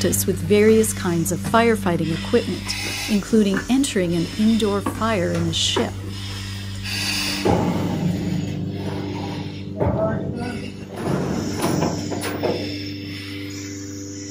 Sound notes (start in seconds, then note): 7.4 objects thudding